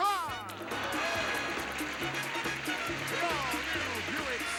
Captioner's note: audience applauding